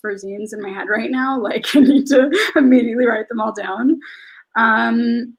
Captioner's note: laughs